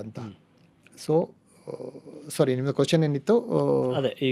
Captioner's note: sighs